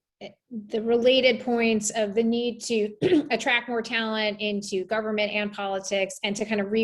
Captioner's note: cough